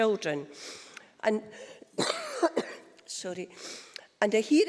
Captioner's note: cough